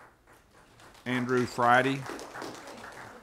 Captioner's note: applause